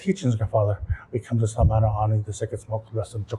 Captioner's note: non-english speech